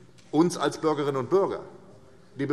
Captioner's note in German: none